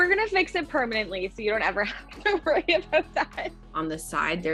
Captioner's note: laughing